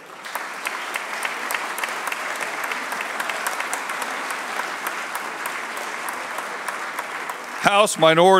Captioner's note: applause